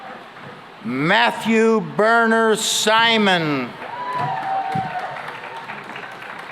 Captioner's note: cheering and applause